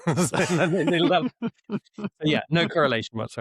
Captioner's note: laughter